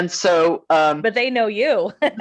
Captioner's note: chuckling